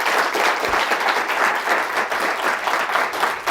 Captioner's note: applause